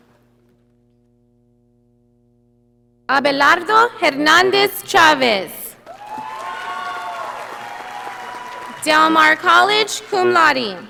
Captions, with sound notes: Abelardo Hernadez Chaves. (audience applauding) Del Mar College, cum laude.